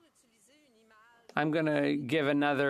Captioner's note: speaking French